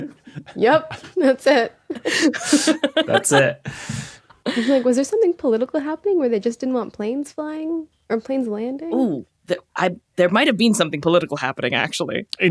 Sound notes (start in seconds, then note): 1.9 laughs; 9.4 stammers